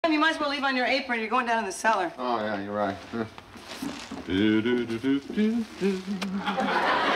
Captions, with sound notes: You're going down to the cellar. Oh, yeah, you're right. (humming)